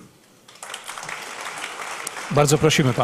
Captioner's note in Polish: oklaski